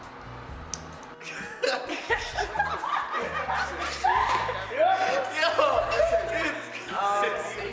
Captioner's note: laughter